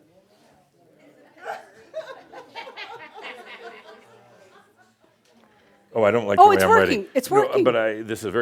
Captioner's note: some chuckles, and a pause as he writes